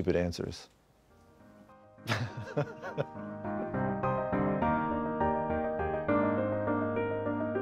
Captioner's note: lively music; Ryan laughing